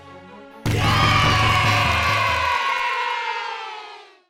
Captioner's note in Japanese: 大歓声